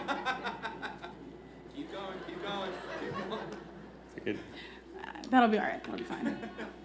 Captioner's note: laughter